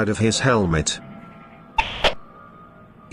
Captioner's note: radio hisses